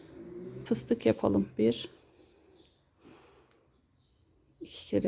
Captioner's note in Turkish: homurdanır